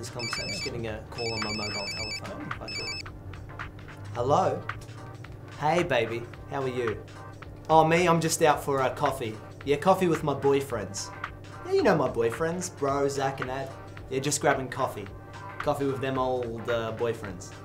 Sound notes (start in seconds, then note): 1.1 phone rings